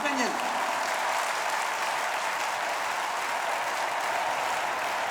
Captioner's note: audience cheering and clapping